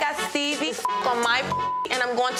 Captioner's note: beep